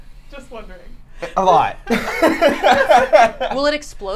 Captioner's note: laughs